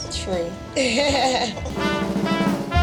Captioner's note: laughter